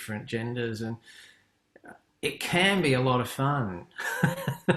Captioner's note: laughs